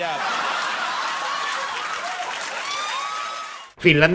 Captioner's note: audience laughing